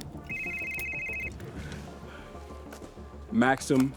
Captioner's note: phone rings